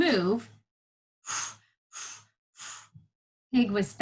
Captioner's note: exhaling loudly